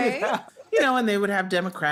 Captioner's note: laugh